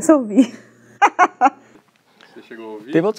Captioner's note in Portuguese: risos